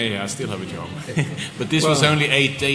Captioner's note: laughter